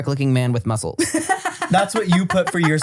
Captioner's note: laughs